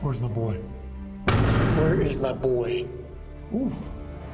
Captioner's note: hits the door